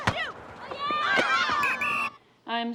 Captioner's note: whistle blows